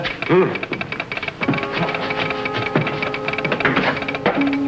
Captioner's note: telegraph tapping